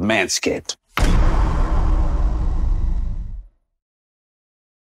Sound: dramatic reverb

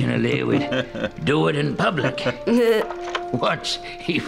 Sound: chuckles

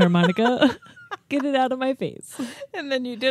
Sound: chuckling

